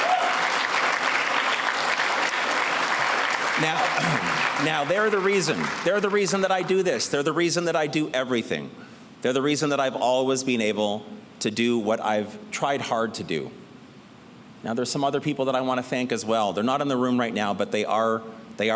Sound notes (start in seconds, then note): 0.0 applause